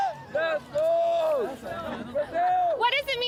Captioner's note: cheering